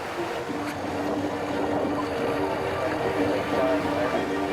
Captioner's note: water sloshing